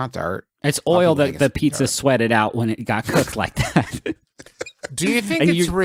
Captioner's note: laughter